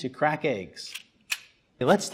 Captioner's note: mechanical clacking